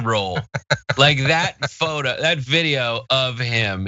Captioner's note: laugh